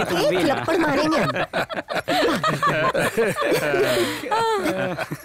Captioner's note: All laughs